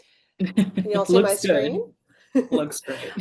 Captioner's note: laughs